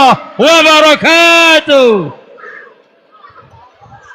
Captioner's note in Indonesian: berteriak